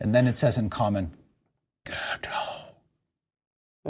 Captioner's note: whispers